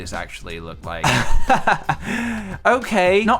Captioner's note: laugh